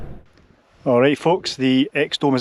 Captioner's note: wind